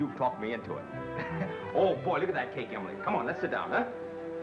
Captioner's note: chuckles